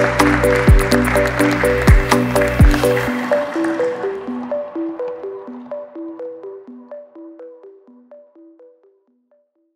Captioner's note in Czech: Potlesk